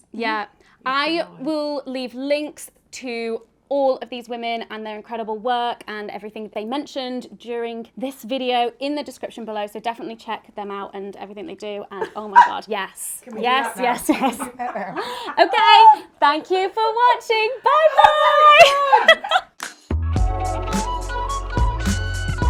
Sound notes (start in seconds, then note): 17.8 all laughing; 19.6 upbeat music